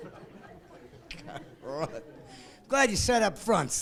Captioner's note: laughing